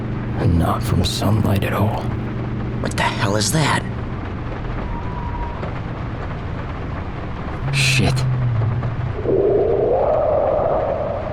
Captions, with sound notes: 'And not from sunlight at all.' -What the hell is that? [breaks squeak] -Shit. [creatures groaning and growling]